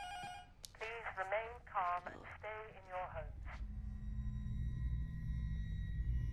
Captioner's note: intercom buzzer rings; intercom